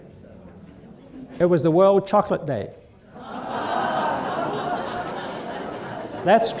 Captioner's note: laughter